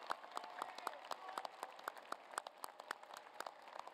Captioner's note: applause